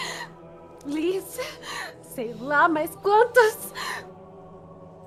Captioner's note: sobs